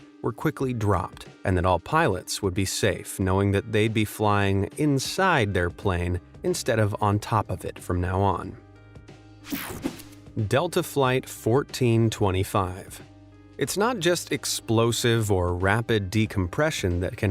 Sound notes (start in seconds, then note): 9.0 gentle music; 9.4 graphic whooshes